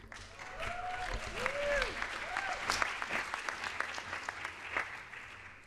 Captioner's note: audience applauds